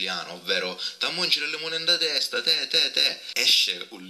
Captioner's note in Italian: dialetto siciliano